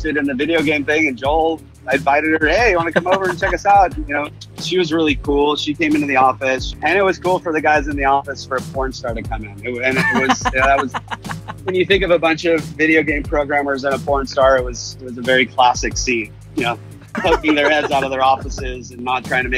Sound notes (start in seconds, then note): 9.8 laughs